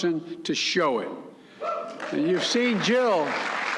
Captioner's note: applause